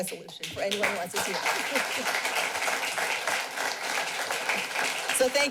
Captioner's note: clapping